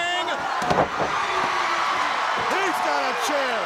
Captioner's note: crowd cheering